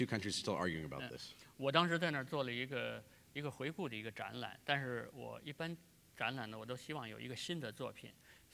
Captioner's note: speaking in Chinese; speaking in Chinese